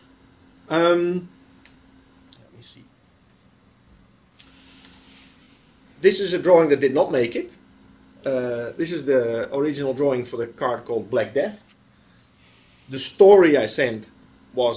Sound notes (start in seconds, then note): 5.1 pause